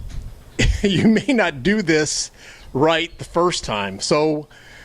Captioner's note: chuckling